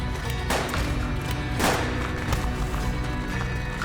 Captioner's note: gunfire